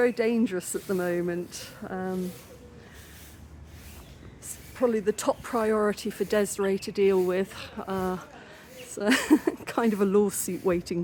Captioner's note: laughing